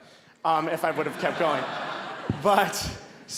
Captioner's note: audience laughing